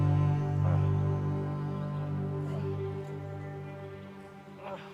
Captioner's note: Arawn groaning